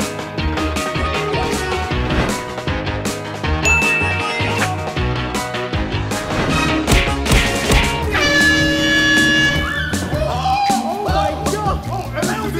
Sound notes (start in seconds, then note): 0.1 energetic music; 8.0 air horn blowing; 8.7 screaming